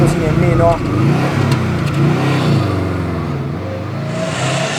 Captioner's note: boxer rumble; intake sound